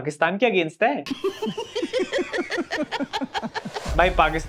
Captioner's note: laughing